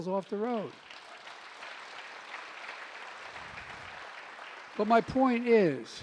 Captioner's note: applause